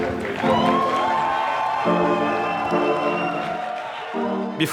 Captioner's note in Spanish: Aplausos